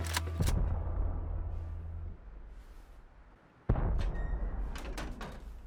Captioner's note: distant booming